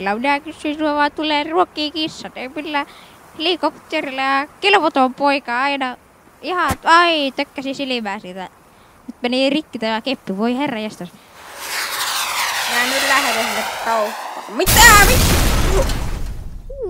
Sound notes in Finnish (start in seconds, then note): 11.3 lentävien ohjusten ääniä; 14.6 räjähdys